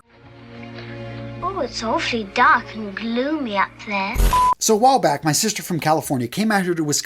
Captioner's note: sound effect